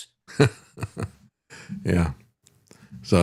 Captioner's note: laughing